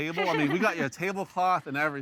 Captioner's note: chuckles